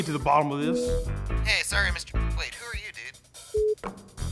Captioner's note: on phone; phone beep